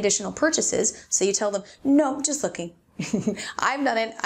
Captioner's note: chuckles